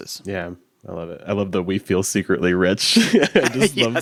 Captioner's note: chuckles